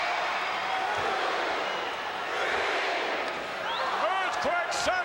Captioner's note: crowd cheering